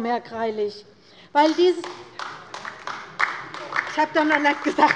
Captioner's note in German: Beifall bei der LINKEN